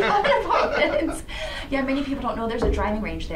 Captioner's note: laughs